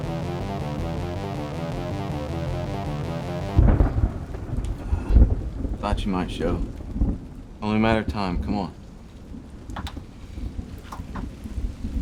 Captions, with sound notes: (tense music continues) (thunder rumbling) - I thought you might show. Only a matter of time. Come on.